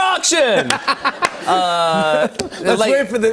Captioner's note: laughter